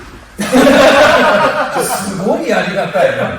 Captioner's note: laughs